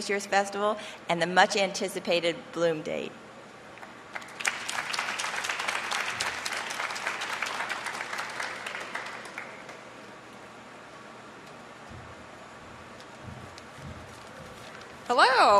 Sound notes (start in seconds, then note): 4.0 applause